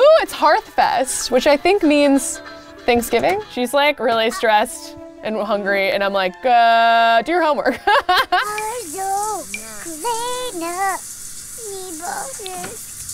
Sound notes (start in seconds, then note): 7.7 laughs; 9.2 singing